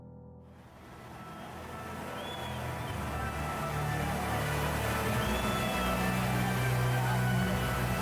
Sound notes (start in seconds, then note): 0.8 creepy music; 1.0 crowd murmuring